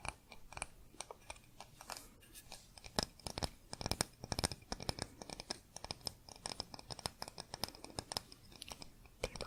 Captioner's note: tapping on stone